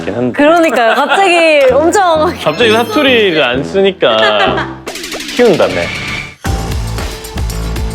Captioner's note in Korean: 웃음